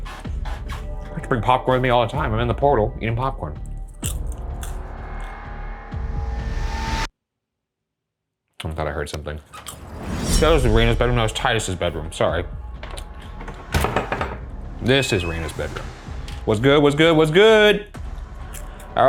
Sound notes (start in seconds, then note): 4.0 popcorn crunching; 12.7 door creaks